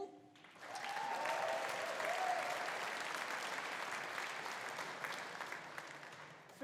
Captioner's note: audience applauding; audience cheering